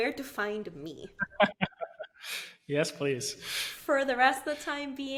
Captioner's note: laughing